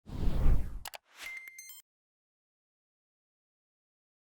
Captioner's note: air whooshing